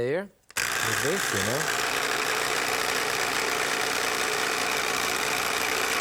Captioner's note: processor grinding